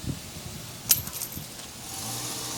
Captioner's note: car approaching; change hitting the ground